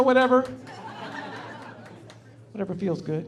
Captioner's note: laughing